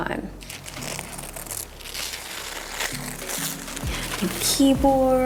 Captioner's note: paper crinkling